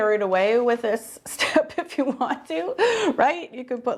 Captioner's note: laughing